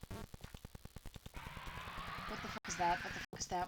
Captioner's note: horror noises like crescendo-ing screeches